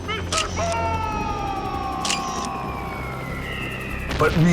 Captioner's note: screaming